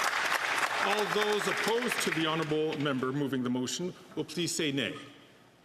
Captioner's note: some Applause